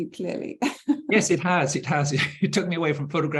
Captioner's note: chuckling